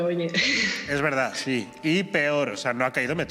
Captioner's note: laughs